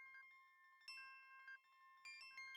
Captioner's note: none